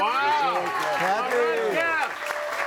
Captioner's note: audience applauding